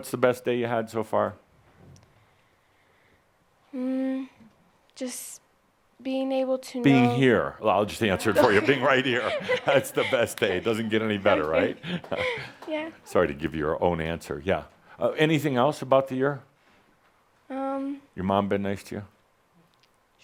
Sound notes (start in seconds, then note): 8.1 chuckling